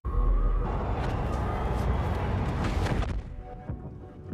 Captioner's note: echoing sounds